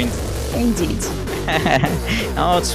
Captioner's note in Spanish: risas